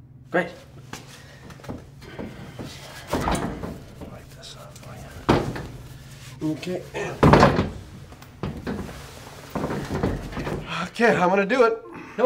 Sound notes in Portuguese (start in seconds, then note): 7.1 Barulho de batida